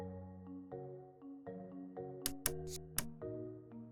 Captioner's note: click sound